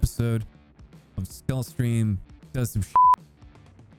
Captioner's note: beep